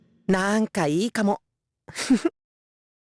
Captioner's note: chuckle